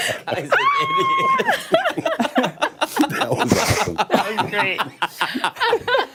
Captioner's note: laughter